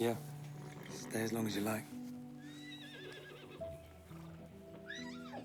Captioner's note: whinnying continues